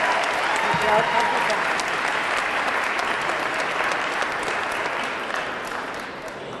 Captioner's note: audience cheering; audience clapping